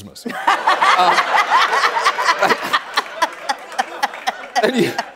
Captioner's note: laughs